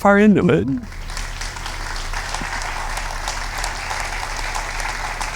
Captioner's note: applause